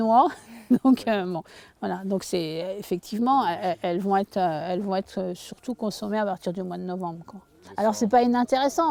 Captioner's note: laughter